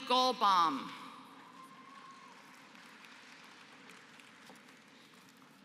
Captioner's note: applause